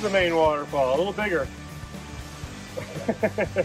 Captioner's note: laughs